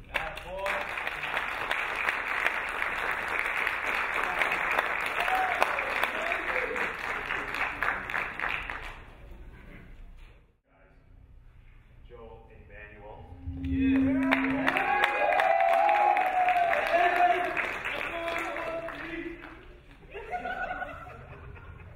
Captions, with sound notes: - That a boy. (applauding) Whoa baby. - Joel and Daniel. - Yeah. (cheering) (shouting) (laughing)